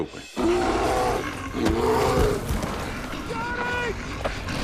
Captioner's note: bear growling